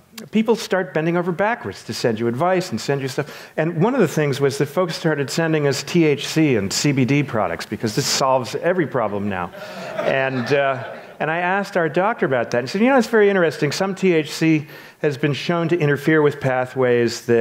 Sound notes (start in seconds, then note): 9.5 audience laughs